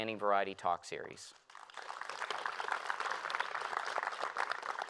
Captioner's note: applause